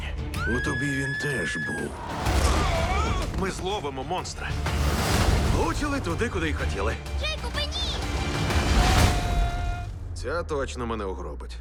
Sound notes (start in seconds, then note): 8.8 screams